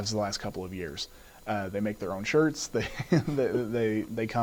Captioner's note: laughs